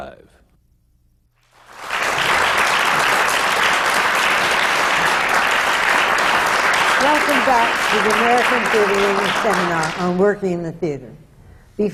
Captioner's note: applause